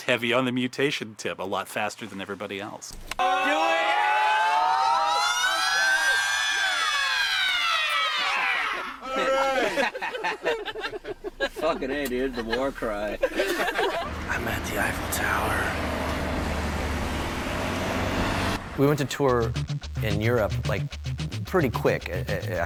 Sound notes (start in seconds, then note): 3.2 people shouting; 13.8 people laughing